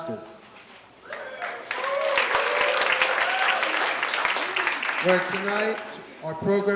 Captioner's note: applause